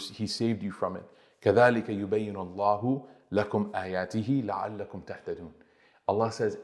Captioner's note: Arabic